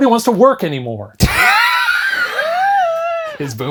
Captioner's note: both laugh